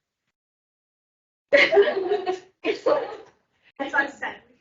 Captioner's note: everyone laughing